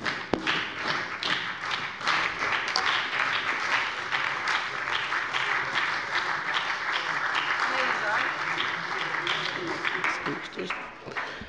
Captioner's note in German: Beifall bei der SPD